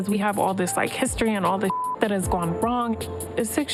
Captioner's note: beep